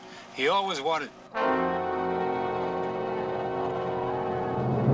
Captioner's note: war cries